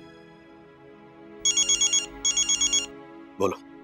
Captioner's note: phone ringing